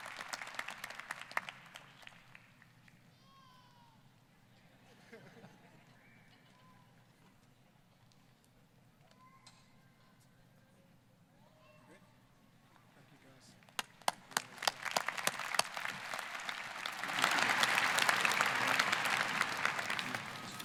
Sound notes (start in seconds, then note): 5.0 scattered chuckling; 13.6 applause